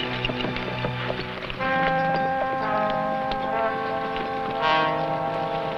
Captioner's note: horse hooves pattering